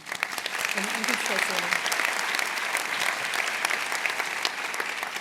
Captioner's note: applause